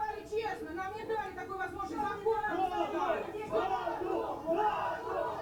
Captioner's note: woman speaking foreign language; people chanting in foreign language